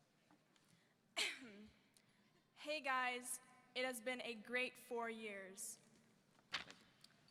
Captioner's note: clears throat